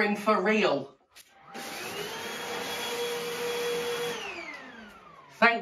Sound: vacuuming

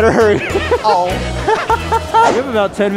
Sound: laughing

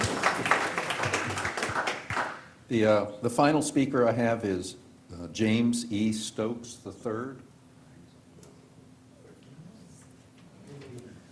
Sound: applause

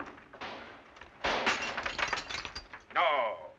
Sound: gunshot and glass breaking

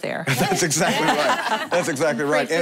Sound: laughing

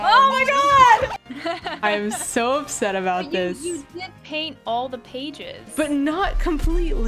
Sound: laughs

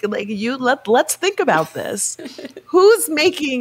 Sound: chuckling

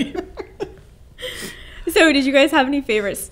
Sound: laughing

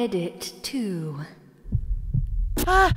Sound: tense heartbeat

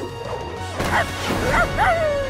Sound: barking

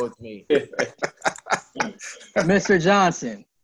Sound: laughs

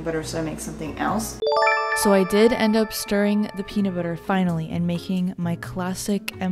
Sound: chime

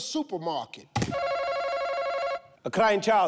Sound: buzzer buzzing

